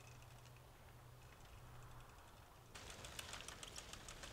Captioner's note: none